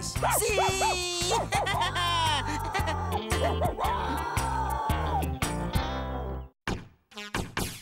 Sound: barking & Howling

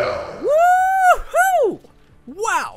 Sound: energetic cheering

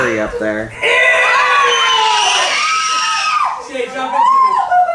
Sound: screaming

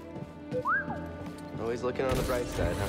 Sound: boop, whistle

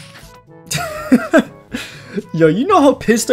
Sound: laughs

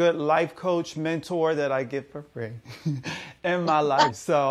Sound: chuckles

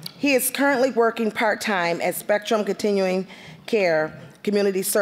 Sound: none

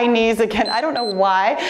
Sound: timer beeps

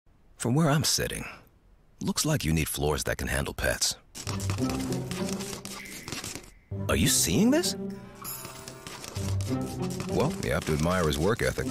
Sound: beeping

